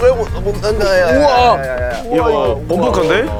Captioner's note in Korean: 덜컹